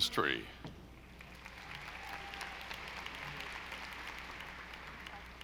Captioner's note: audience applauding